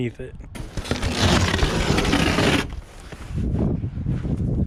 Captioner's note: carpet tearing